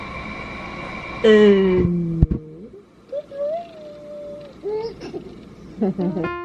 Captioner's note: baby sounds